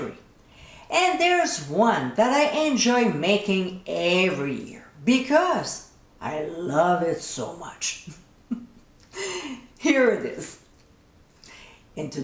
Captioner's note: giggling